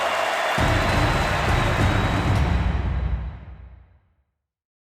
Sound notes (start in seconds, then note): 0.0 compelling rhythmic music; 0.0 crowd cheering